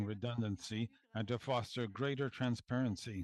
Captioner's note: speaking French